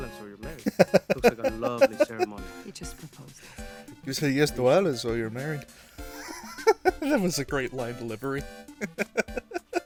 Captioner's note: laughter; wheeze; laughter